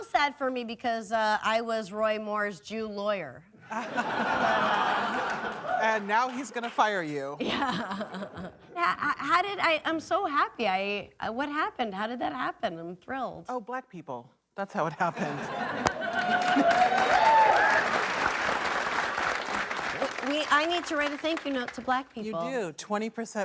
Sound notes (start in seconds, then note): 3.6 laughter; 7.4 laughs; 15.8 applause